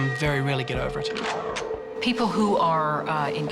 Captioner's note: gun cocks